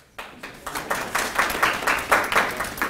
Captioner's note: claps